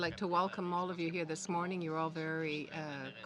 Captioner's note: speaking French